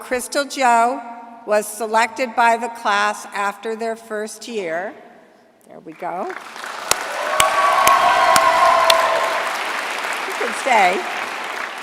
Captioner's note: cheering; applause